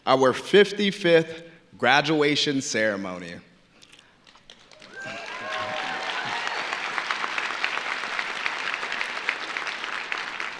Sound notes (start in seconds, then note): 4.5 audience applauding; 4.7 audience cheering